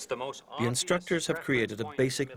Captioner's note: voiceover